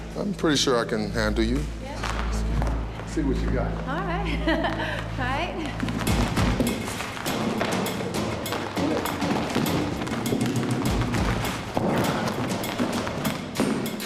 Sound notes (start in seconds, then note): 4.2 laughs